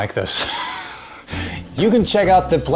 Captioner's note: laughs